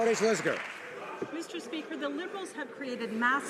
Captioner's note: some Applause